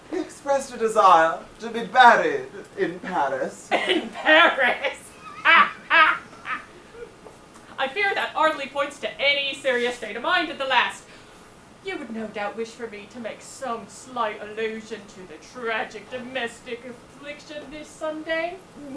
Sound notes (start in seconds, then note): 6.2 laughs